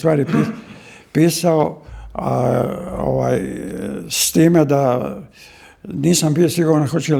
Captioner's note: coughs